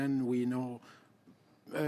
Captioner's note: speaking French